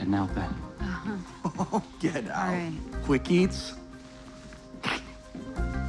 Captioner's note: laughs